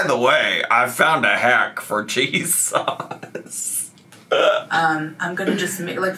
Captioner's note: laughs